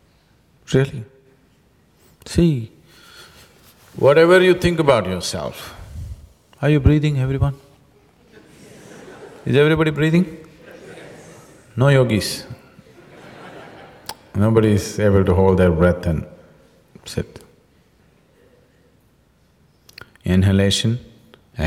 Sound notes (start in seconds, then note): 8.2 laughter